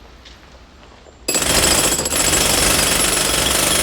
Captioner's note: jackhammering